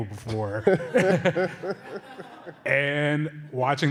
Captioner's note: laughter